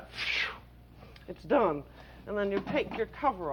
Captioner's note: exhales